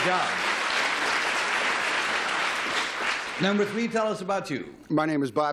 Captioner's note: applause